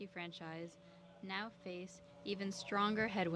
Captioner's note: speaking French